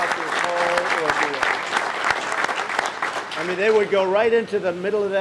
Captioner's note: applause